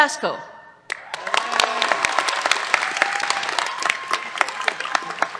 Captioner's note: applause